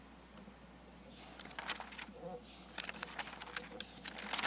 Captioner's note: pages turning